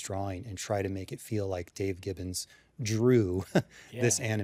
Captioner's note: chuckles